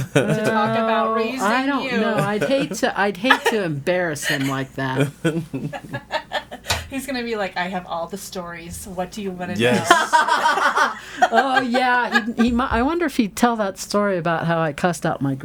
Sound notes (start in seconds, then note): 9.5 all laughing